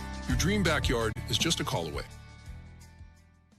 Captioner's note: none